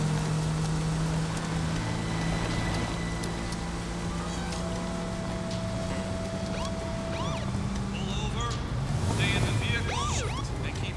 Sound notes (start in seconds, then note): 5.9 siren chirps